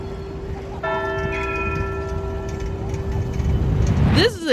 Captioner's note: bell rings